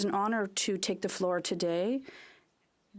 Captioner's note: speaking French